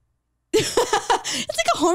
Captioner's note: chuckles